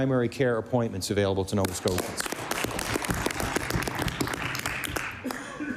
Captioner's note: applause